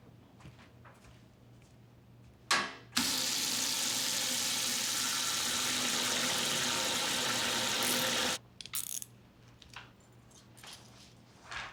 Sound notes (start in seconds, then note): 3.0 water gushing; 8.6 handcuffs zipping closed